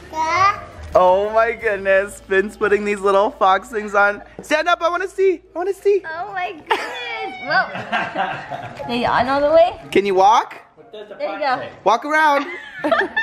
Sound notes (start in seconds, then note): 7.6 laughter